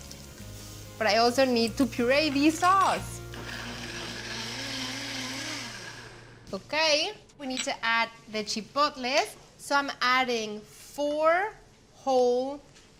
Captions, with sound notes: but I also need to puree the sauce. [Whirs loudly] OK, we need to add the chipotles, so I'm adding 4 whole chipotles